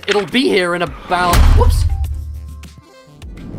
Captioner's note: loud thump